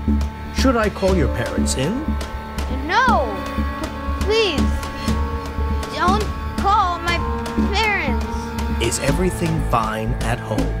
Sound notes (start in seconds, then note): 6.4 stuttering